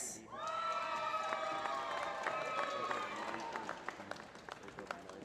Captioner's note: applause